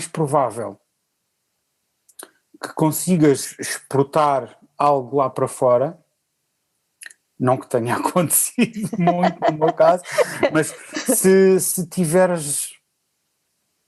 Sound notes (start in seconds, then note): 8.5 laughs